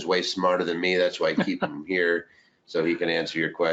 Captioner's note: laughing